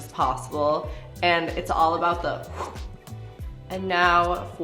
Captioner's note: imitates whooshing